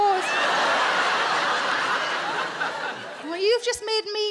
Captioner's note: audience laughing